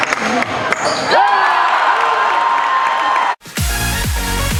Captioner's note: crowd goes wild